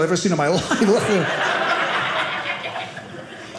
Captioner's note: audience laughing